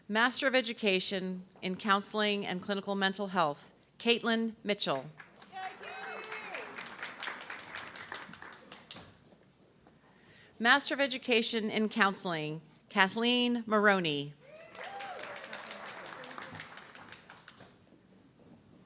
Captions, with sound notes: Master of Education in Counseling and Clinical Mental Health, Caitlin Mitchell. (audience clapping) Master of Education in Counseling, Kathleen Maroney. (audience clapping)